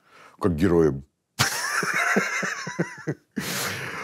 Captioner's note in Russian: смеется